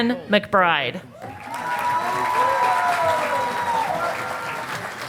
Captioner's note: audience applauding